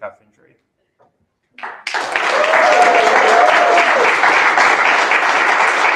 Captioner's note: applause